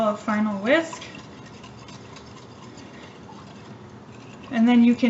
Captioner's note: stirring Sound